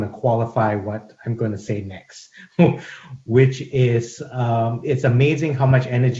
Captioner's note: chuckles